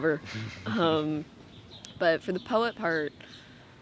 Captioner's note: laughs